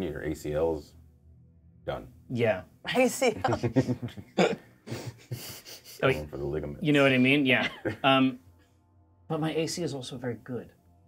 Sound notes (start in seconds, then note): 3.3 laughs; 3.4 co-hosts laughing